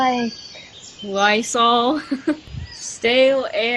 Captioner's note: giggling